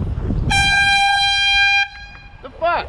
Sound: airhorn

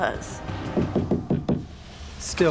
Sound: knocking

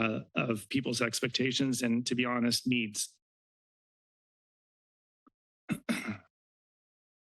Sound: clears throat

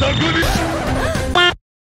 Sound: screech and panicked sounds; record scratch; gasp

